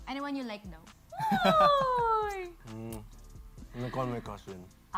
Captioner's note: chuckles